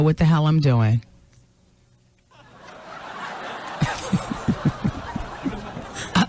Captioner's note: laughter